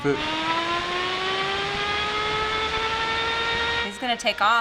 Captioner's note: spinner whining